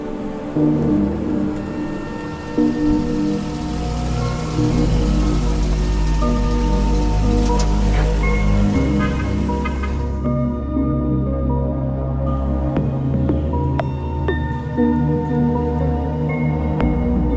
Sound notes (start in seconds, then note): 1.1 vehicle engine approaching; 8.4 vehicle horn beeping; 11.2 pensive, emotional music